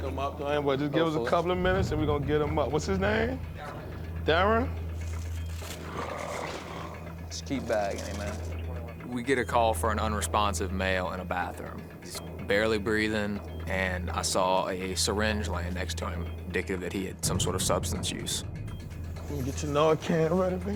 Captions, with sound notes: Just give us a couple minutes, and we're gonna get him up. What's his name? Theron? [gurgling] Just keep bagging him, man. We get a call for an unresponsive male in a bathroom. He's barely breathing, and I saw a syringe laying next to him, indicative that he had some sort of substance use. Gonna get your Narcan ready.